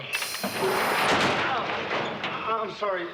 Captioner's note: clangs; groans